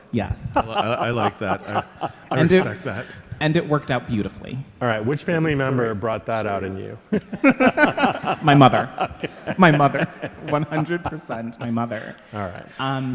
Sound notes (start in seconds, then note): 0.1 laughing; 7.3 laughing